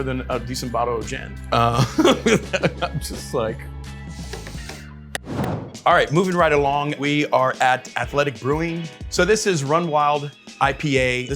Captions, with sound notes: more than a decent bottle of gin. [laughs] I'm just like. [palms slapping] [graphic whooshing] Alright, moving right along. We are at Athletic Brewing, so this is Run Wild IPA.